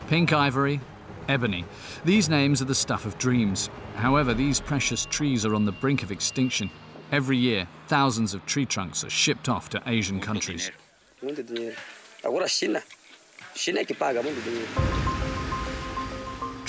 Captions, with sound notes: Pink ivory, ebony, these names are the stuff of dreams. However, these precious trees are on the brink of extinction. Every year, thousands of tree trunks are shipped off to Asian countries. [Portuguese spoken audio]